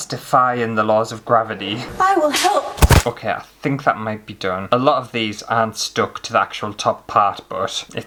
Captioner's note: thud!